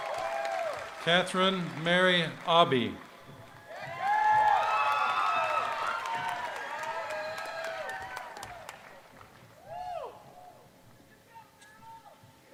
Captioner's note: cheering and applause